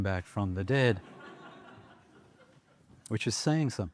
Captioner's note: laughter